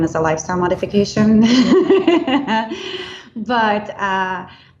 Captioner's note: laughing